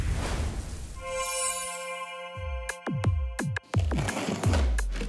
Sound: chiming; upbeat music

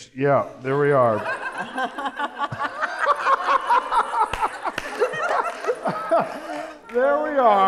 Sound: laughter

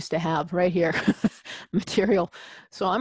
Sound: laugh

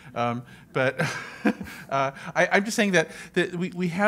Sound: laughs

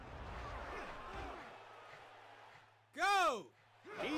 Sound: cheering

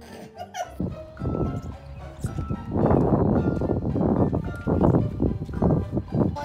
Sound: wind blowing, squeeky squeeky

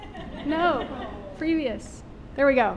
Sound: audience laughing

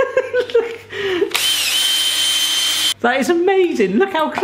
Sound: whirring

